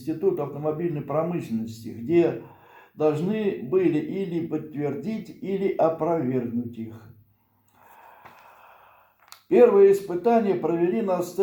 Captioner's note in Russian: вздыхает